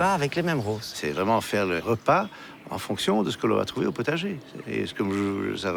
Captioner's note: speaking in foreign language